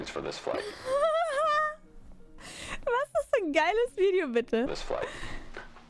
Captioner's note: laugh